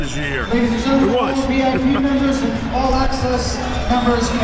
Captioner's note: laughs